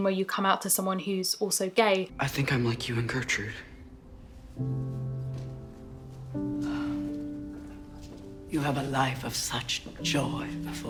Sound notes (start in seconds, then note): 4.6 gentle music; 6.5 sighs